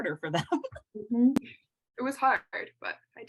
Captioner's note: laughter